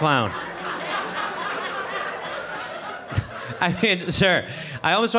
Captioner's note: audience laughing